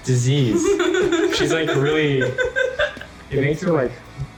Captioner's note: laughs